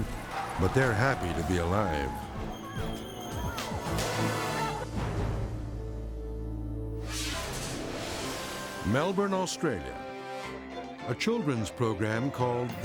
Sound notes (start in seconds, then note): 3.7 dramatic beat; 5.6 ominous music; 7.0 transition whooshes